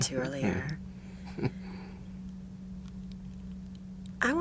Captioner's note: laughs